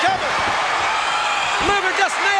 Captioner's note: audience cheering